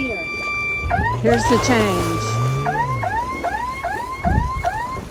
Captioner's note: airhorn blasts; airhorn blast